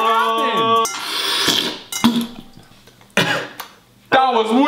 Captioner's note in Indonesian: slurp